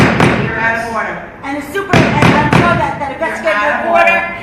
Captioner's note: pounding gavel